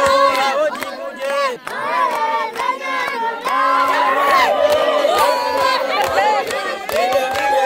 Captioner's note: villagers chanting in a foreign language